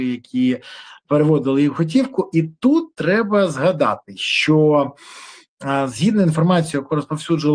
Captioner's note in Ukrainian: сопіння